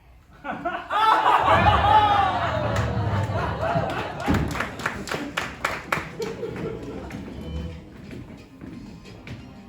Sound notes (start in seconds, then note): 1.3 universe shifting sound